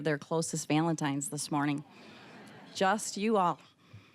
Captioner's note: audience laughing